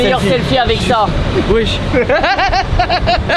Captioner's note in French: rire